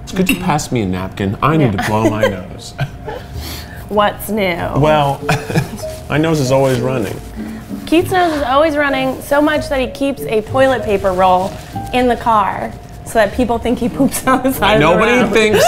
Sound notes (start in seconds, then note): 1.8 laughs